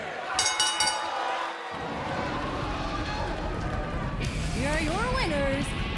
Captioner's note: bell